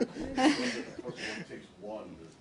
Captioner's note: laughter